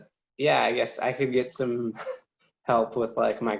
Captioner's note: chuckles